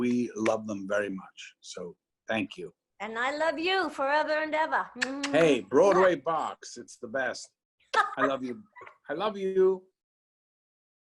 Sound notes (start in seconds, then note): 8.0 laughs